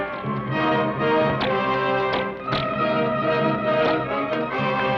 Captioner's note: bullet ricochets; gun fires; bows twang